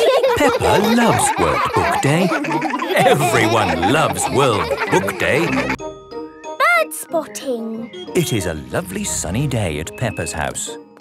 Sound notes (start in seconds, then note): 0.0 laughing; 0.0 laughter